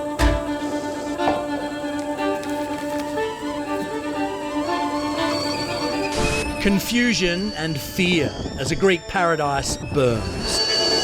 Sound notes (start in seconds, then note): 2.8 kettle whistles